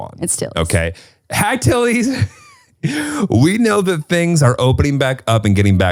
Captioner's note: chuckles